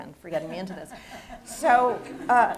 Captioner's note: laughs